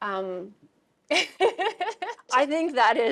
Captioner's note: laughing